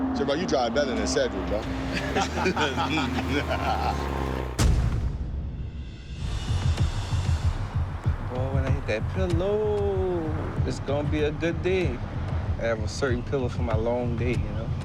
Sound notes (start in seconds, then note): 1.8 laughter